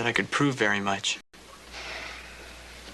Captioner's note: sighs